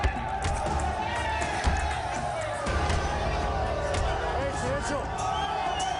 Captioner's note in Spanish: Golpes